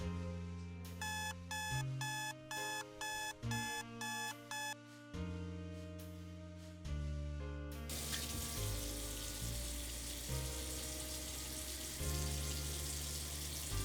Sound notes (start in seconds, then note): 1.2 alarm ringing; 5.4 gentle music; 7.9 water running; 10.8 gentle music